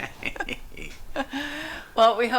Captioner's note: both chuckle